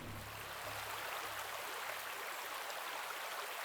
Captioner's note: river flows